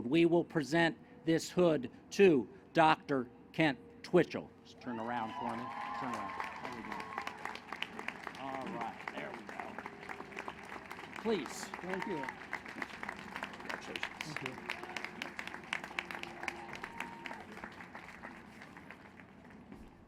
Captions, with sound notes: We will present this hood to Dr. Kent Twitchell. Just turn around for me. [ Applause ]